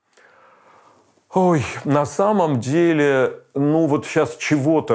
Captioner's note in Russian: со вздохом